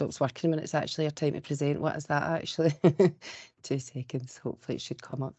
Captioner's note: chuckles